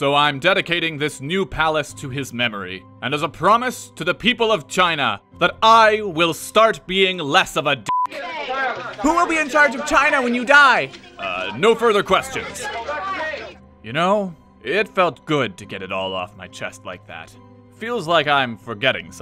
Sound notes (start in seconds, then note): 8.0 reporters clamor